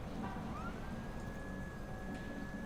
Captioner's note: machine sound